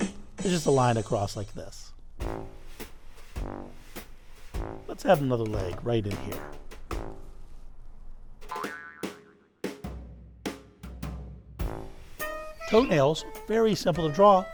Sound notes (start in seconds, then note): 8.4 gentle upbeat music; 8.5 spring boings